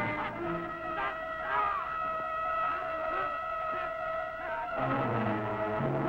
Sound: men grunting; tense orchestral music

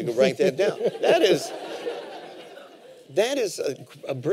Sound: laughter

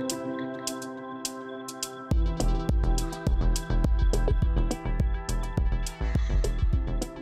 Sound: upbeat music continues; crickets chirping

